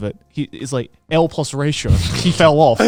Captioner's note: laughing